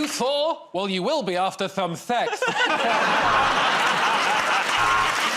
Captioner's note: lisping; buzzer buzzes